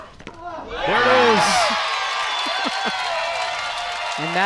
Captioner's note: crowd cheers